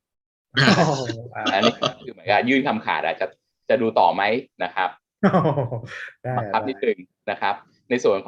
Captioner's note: laughing